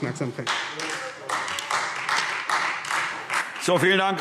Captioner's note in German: Beifall Freie Demokraten